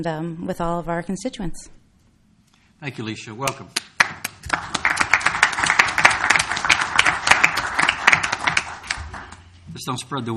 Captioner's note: applause